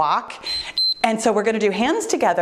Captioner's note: timer beeps